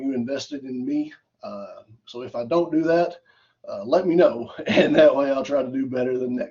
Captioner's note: laughter